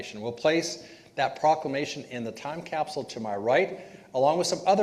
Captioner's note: none